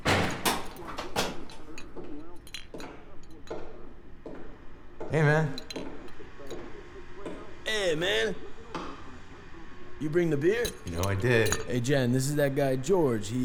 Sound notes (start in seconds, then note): 2.6 βήματα